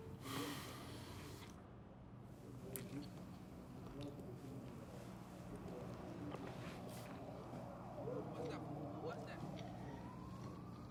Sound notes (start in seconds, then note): 0.2 sighing softly; 2.2 TV chattering softly; 9.5 siren wailing